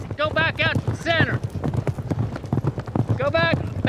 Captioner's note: hoof beats